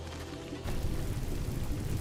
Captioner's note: none